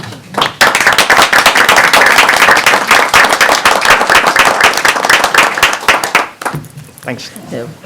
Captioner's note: applause